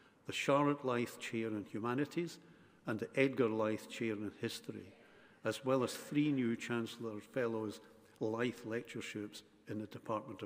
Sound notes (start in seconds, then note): none